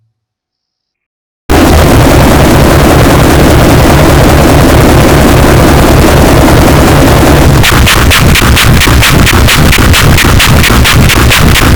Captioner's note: yelling Earrape